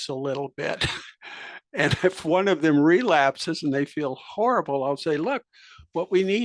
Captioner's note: laugh